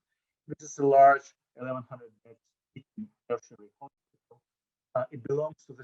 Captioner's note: audio drop